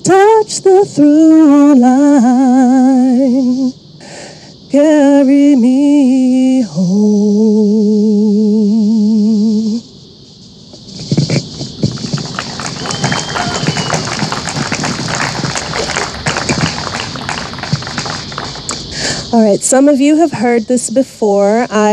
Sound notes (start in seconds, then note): 11.3 audience applauding